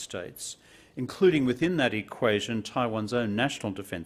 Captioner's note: non-english speech